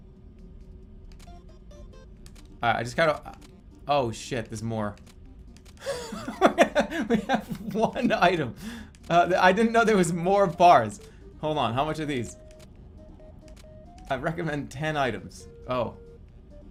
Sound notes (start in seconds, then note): 5.8 bursts out laughing